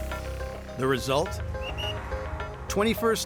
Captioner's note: whistle blows